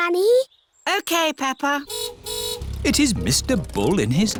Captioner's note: car horn honks